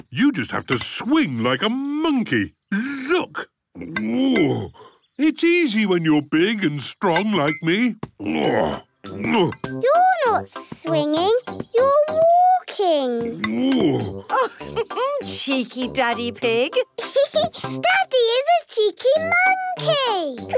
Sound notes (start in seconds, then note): 3.7 grunts; 8.2 grunts; 13.4 laughs; 16.8 laughs